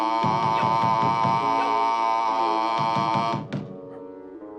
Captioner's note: knocking on the door; calm music